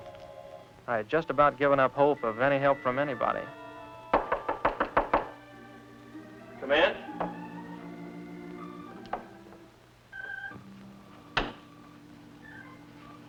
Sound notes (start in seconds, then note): 4.1 knocking at door